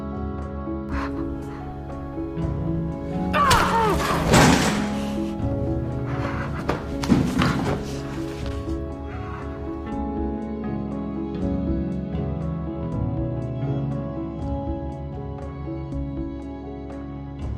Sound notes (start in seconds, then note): 3.4 Aunt Lydia slaps June